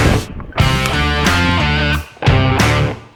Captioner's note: bbbbbbboooooooommmmmm!!!!!!!!!